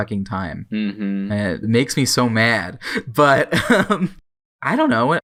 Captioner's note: laughs